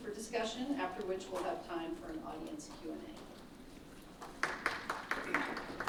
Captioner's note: applause